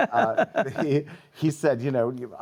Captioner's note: laughs